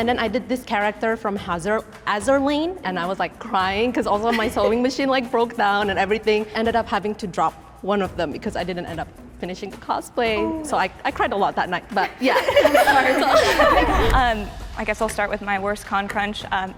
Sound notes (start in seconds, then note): 12.1 laughter